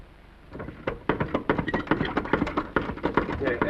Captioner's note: handle pumps